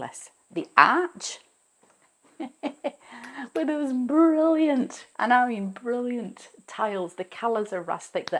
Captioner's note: chuckles